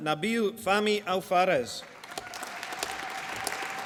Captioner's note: applause